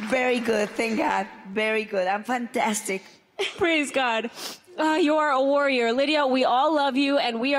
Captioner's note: applause